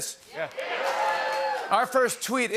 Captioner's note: cheers